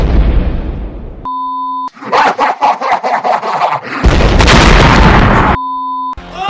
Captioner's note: explosion; explosion